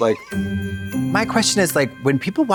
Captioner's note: festive chime